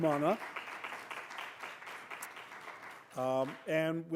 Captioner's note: applause